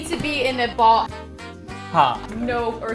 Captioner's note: speaking in Hindi